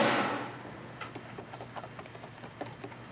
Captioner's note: metal scraping